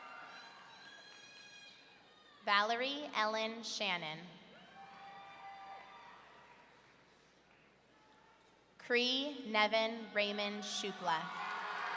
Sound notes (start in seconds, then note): 4.9 audience cheering; 11.2 audience cheering